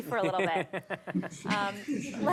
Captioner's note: laughter